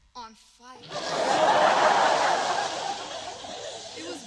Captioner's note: laughter